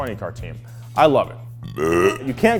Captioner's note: belches loudly